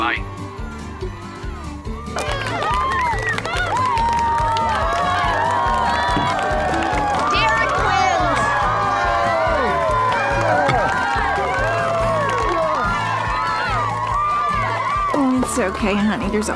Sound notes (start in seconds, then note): 2.5 cheering, applause; 10.7 cheering, applause